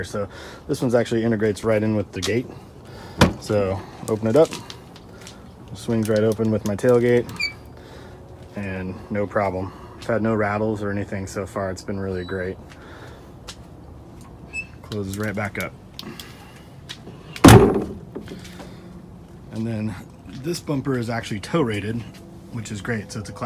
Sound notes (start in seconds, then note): 17.3 tailgate closes